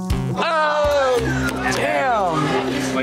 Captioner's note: group exclaiming